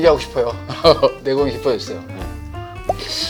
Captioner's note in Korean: 웃으며